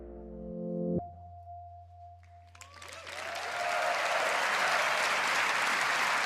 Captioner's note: cheers and applause